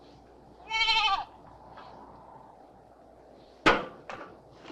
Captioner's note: goat bleating